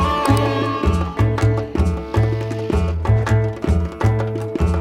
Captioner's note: applause